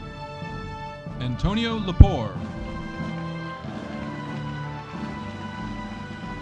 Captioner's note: audience applauding